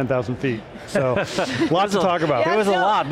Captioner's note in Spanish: riendo